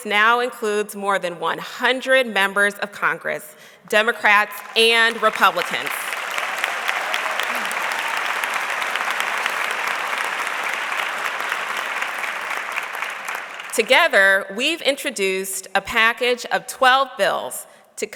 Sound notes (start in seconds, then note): 6.0 audience clapping